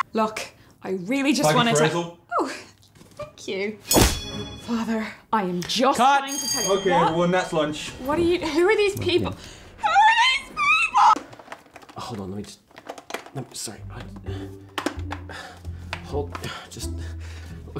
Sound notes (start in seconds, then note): 3.9 bell ring / punch; 6.2 lunch bell